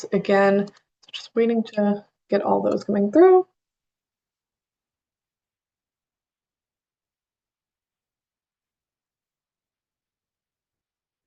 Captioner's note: pause